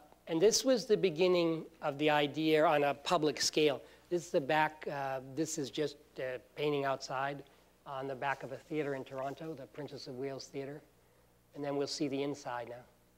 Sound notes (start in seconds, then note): none